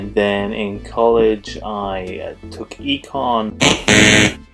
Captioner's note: wrong answer sound